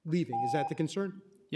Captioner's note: timer tone